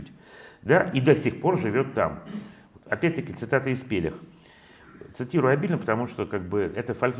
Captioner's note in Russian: откашливается